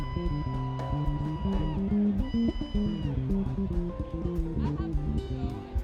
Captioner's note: students cheering and screaming